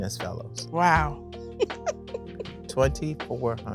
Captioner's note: laughs